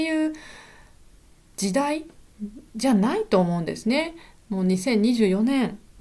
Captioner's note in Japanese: 息をのむ音